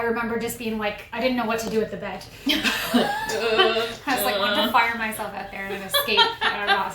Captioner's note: laughter